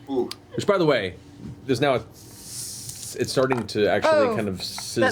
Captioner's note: sizzling